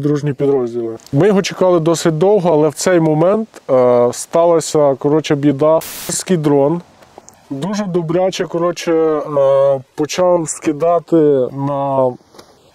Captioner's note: russian